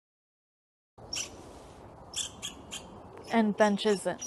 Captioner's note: squirrel chirps